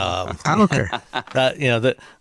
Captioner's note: chuckles